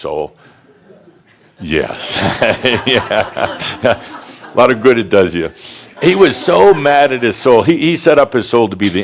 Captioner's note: laughter